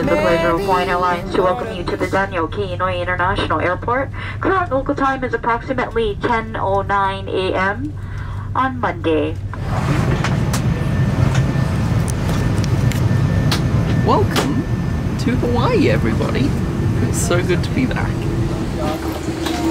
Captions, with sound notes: the pleasure of Hawaiian Airlines to welcome you to the Daniel K. Inouye International Airport. Current local time is approximately 10:09 am on Monday. (airplane engine running) - Welcome to Hawaii, everybody. It's so good to be back.